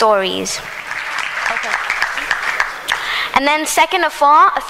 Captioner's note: applause